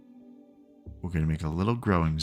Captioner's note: silence